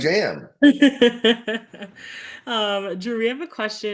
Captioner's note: laughing